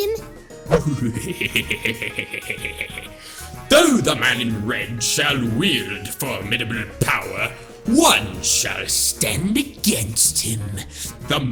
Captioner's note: laughs